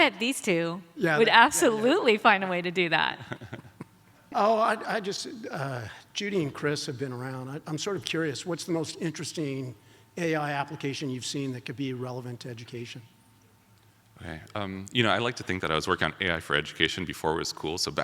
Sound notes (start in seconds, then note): 3.1 laughs